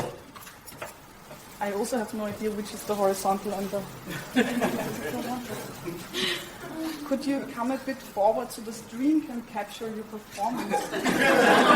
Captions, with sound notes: I also have no idea which is the horizontal and the... (laughter) Could you come a bit forward so the screen can capture your performance (audience laughs).